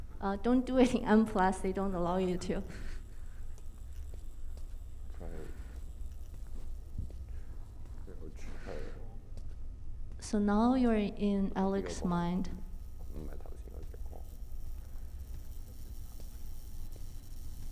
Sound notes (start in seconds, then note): none